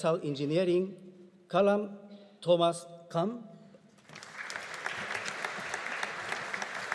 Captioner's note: audience applauding